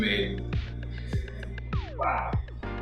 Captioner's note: laughs